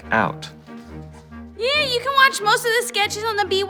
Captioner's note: high-pitched, nasal